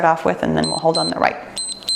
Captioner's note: timer beeps